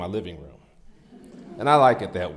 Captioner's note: audience laughs